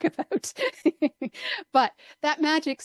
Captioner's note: laughs